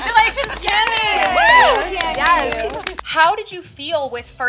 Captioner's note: all clapping and cheering